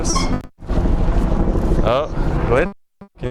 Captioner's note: audio pops